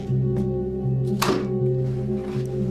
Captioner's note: thud